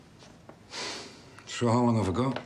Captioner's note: Harry exhales sharply